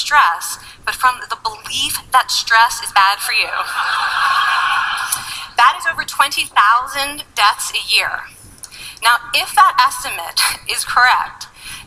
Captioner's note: laughing